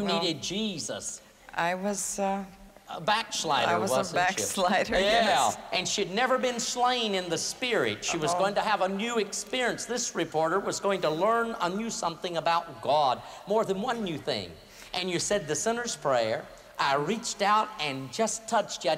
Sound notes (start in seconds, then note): 5.1 laughter